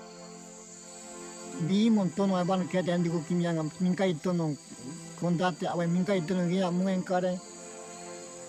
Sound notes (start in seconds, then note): 1.9 speaking in foreign language